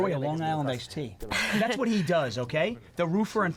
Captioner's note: laughs